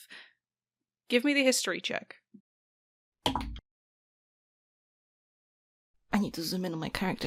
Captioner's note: good dice thunks!